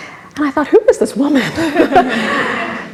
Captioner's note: laughs